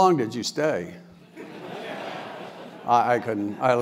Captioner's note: laugh